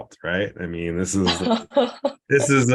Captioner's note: student laughs